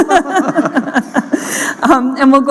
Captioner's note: laughter